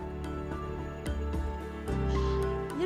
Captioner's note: whispering